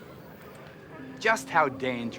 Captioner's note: chuckles